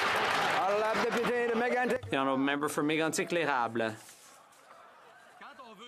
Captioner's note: some Applause